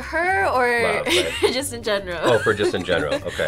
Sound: laughs

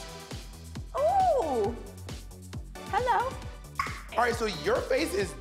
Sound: pops tongue

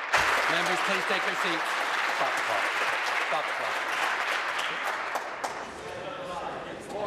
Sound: applause

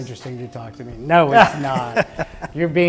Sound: laughs

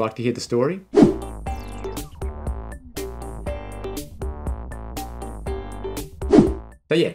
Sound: screen whooshing; lively music

